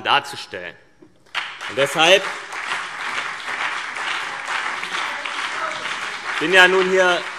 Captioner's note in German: Beifall CDU und BÜNDNIS 90/DIE GRÜNEN